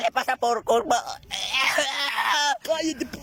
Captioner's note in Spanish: se ahoga